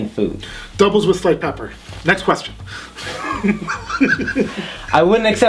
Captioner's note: laughs